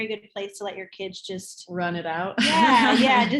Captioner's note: laughs